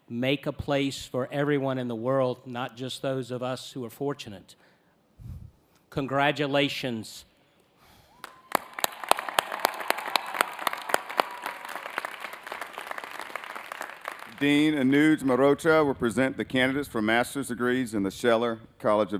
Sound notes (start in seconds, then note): 12.4 applause